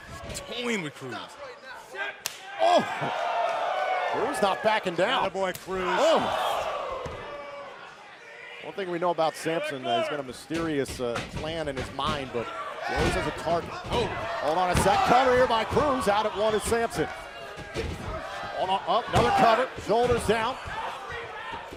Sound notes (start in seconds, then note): 4.3 crowd cheering